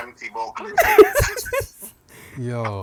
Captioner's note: laughter